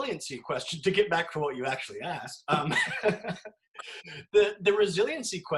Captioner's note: laughs